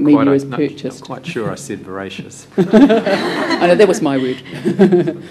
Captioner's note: laughter